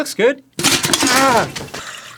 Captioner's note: fumbling